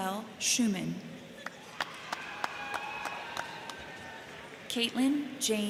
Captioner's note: crowd clapping; crowd cheering